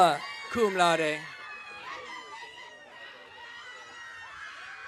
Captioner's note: audience cheering